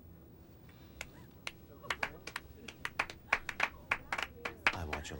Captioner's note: people clapping